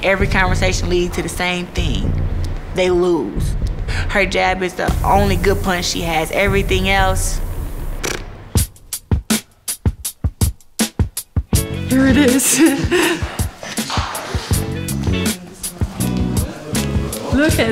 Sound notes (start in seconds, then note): 11.8 laughs